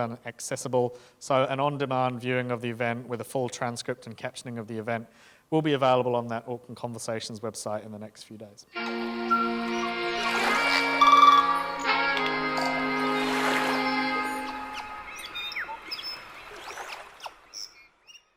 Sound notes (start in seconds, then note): 8.7 gentle music; 12.4 water splashing; 13.1 birds chirping